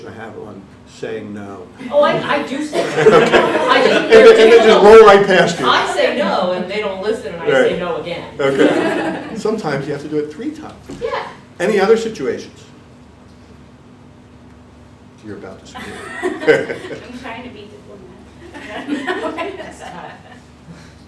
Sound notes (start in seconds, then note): 2.6 audience laughing; 2.7 laughter drowns out dialogue; 8.4 audience laughing